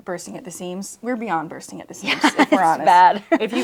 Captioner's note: laughs